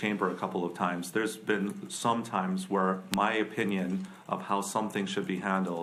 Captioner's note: none